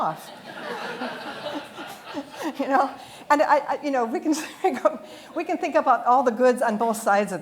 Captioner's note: audience laughter